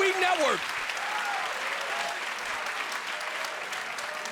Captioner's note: audience applauding